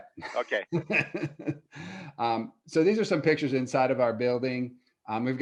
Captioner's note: laughs